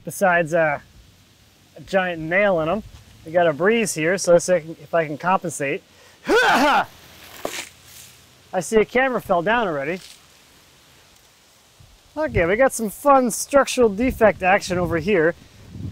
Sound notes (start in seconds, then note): 6.2 grunts; 7.3 water splashes